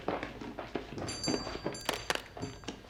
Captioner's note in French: sonnerie de la porte